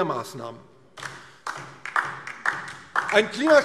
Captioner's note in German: Beifall DIE LINKE